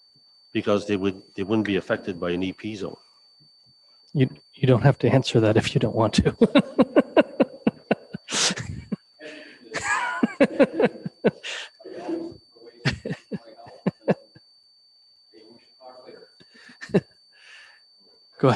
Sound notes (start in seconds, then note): 7.1 man laughing